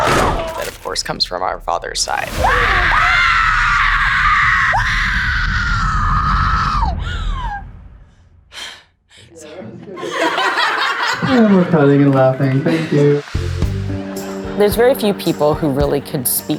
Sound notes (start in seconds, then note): 2.3 screaming; 6.9 exhales; 9.9 all laugh